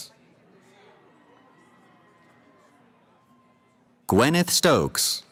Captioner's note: cheering